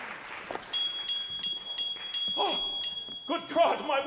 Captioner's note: bell ringing